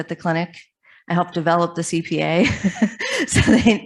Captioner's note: laughs